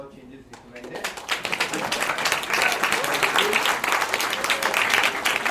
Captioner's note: attendees clapping loudly